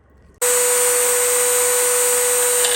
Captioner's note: drill whirring